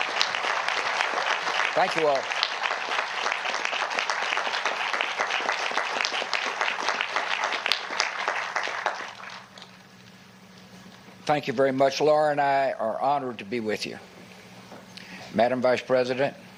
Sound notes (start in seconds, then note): 1.9 applause